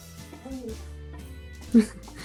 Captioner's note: wimpers